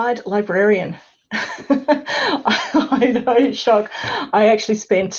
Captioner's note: laughs